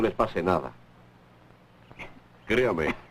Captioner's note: coughing